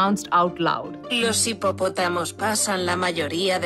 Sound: non-english

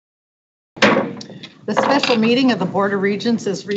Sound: gavel taps

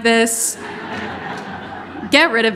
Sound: audience laughing

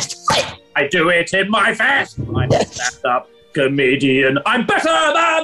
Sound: gruffly; deep voice

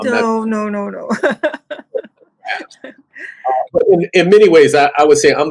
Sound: laughs

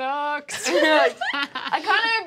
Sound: laughing

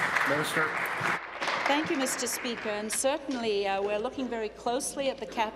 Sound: applause

